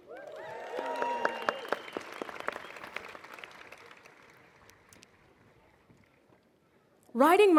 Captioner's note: applause